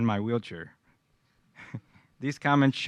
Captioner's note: laughter